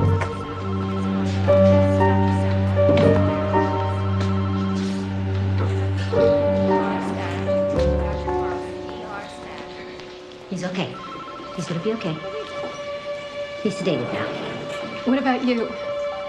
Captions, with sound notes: (phone ringing) - He's okay. He's gonna be okay. He's sedated now. - What about you?